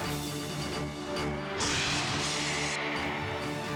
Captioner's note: upbeat music; screen whooshing; upbeat music continues